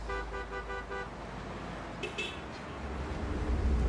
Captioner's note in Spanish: Sonido del claxon